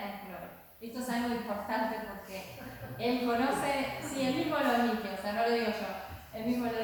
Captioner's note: laughs